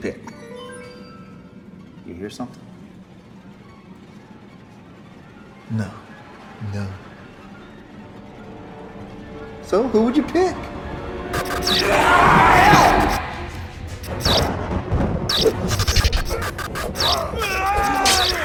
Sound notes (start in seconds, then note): 0.3 curious music; 11.3 lights buzzing; 11.7 vampire growling; 13.1 thunder rumbling; 14.0 lights buzzing; 17.0 Max and Dell groaning; 18.2 blows thudding; 18.2 vampire hissing